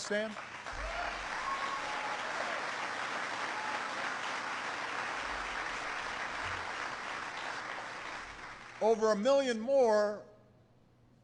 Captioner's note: applause